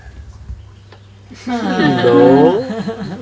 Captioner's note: laughter